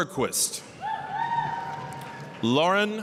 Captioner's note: applause, cheering